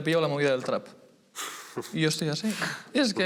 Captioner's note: laughs